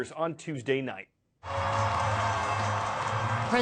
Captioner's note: cheering